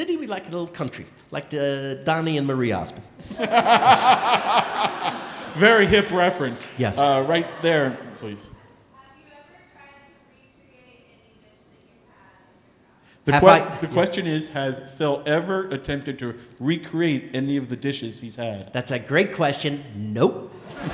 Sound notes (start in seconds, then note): 3.2 & crowd laughing; 8.7 speaking softly